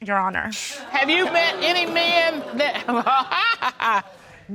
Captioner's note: chuckles